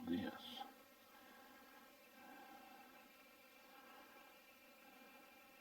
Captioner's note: distant birds chirping